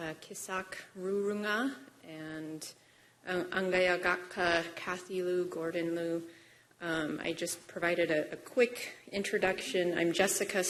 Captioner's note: speaking non-english